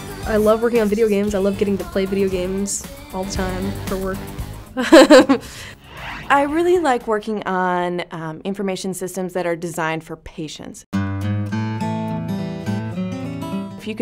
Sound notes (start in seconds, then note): 4.8 laughing